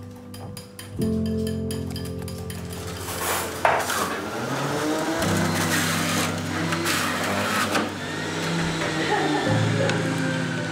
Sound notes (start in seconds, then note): 3.7 juicer buzzing; 8.8 laughs